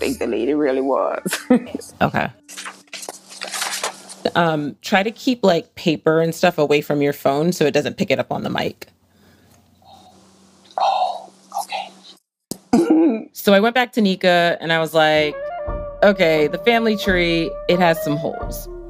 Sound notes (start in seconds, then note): 1.2 laughs; 11.8 whispers; 12.6 laughs